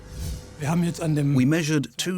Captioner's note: speaking German